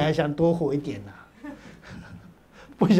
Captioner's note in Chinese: 哈哈哈